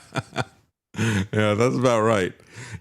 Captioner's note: laughter